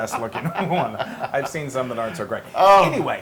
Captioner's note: laugh